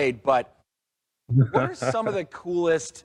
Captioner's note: laughs